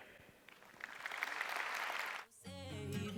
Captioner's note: applause